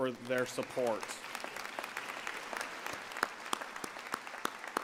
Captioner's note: applause